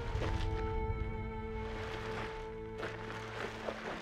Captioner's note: body scraping